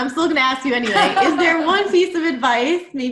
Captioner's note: laughs